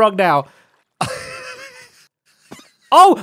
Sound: laughs

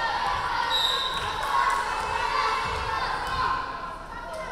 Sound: referee whistling

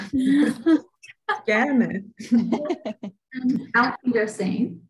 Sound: laughter

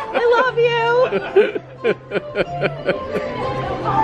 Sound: laugher

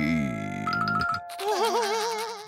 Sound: laughing

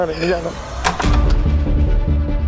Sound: door opening

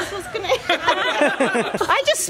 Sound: laughter

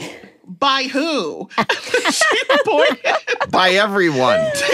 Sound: laughter

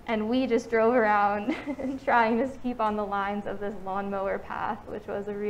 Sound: laughing

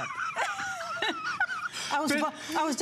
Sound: laughter

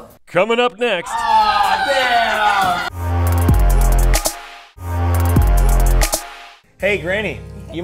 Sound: man yelling

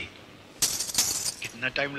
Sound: bangles clinking

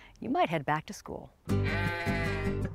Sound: sheep bleating

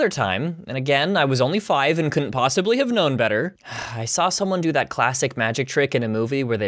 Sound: sigh

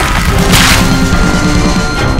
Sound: head explosion

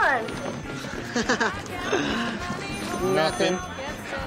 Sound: Griffen laughs

